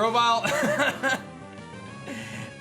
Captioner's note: laughs